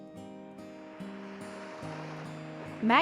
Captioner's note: gentle music; waves crashing